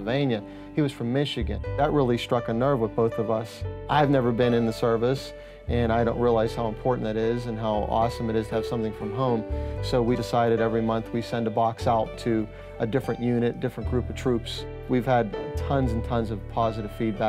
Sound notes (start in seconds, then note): none